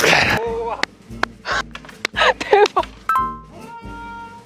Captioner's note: clapping